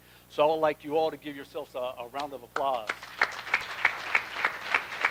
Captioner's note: applause